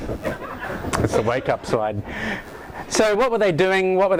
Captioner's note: laughter